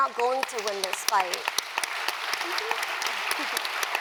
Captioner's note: applause